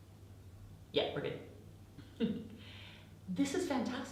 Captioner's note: chuckles